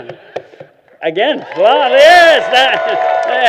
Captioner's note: applause